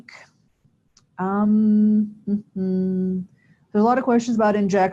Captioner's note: humming